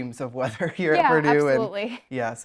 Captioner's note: laughs